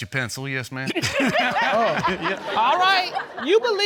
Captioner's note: all laughing